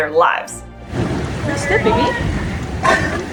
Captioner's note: background noise and chatter